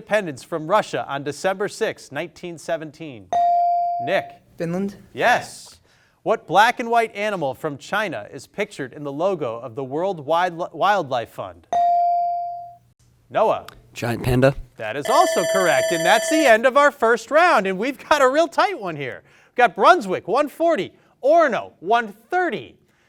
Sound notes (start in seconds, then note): 3.4 bell sounding; 11.8 bell sounding; 15.0 long buzzer sounding